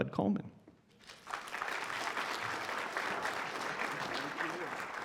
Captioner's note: applause